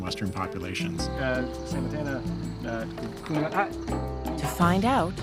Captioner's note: speaking local language